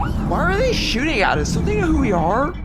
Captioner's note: sounds of space combat